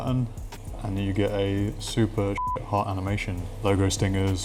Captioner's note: beep